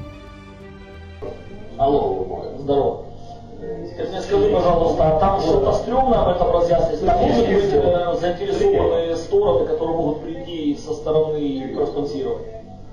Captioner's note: speaks on the phone